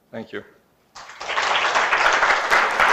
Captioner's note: applause